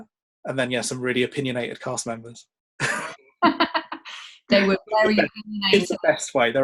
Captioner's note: laughs